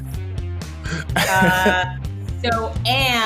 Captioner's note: laughs